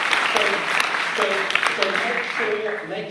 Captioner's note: audience applause